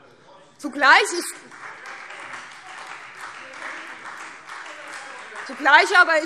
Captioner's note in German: Beifall Freie Demokraten